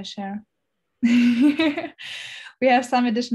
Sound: laughs

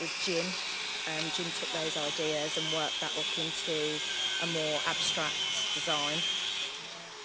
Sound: drilling noise

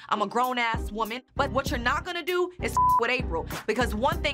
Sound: beep

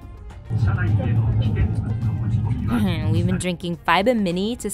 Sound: announcer speaking in Japanese

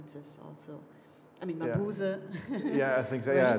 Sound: speaking foreign language

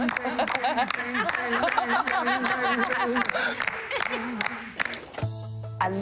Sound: laughter; rhythmic clapping

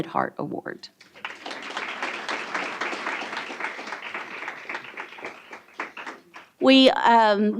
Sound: applause

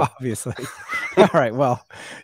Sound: laughing

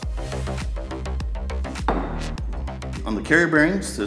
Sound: metallic thud

